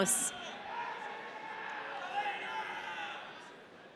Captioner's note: audience cheering